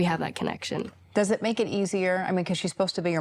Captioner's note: none